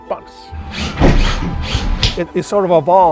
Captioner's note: tools whirring